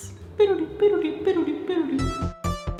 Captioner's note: imitates dreamy music; upbeat electronic music